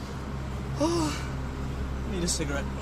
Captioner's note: dramatic sighing